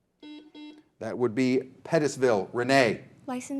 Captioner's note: buzzer buzzing